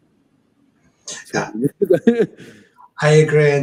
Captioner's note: laughs